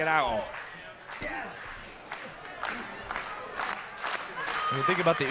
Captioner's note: crowd cheering